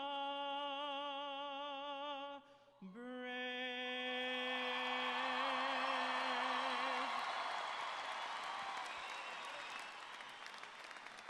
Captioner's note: cheers and Applause